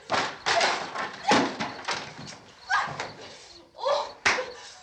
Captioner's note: shouts